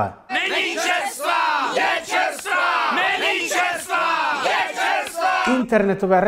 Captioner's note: yelling